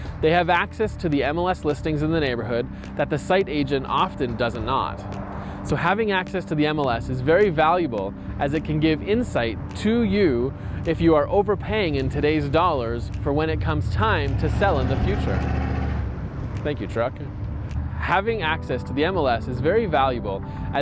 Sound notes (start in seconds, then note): 14.7 trunk engine rumbling